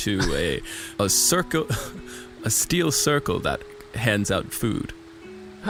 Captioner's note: laughing slightly